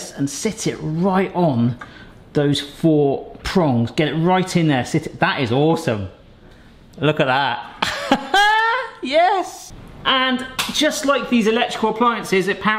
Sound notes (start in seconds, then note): 7.8 laughs